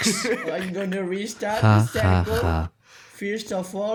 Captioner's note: Laugh in Catalan